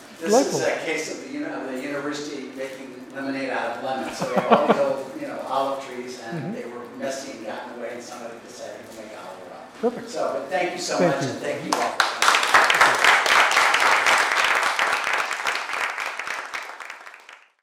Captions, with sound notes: This is a case of the university making lemonade out of lemons. >> [LAUGH] >> So olive trees and they were messy and got in the way, and somebody decided to make olive oil out of them. >> Perfect. >> So but thank you so much and thank you all. >> [APPLAUSE]